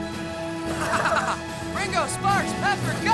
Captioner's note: Ozz laughing